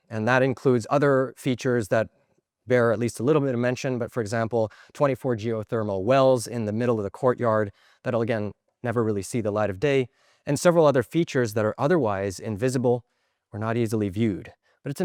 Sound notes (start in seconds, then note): none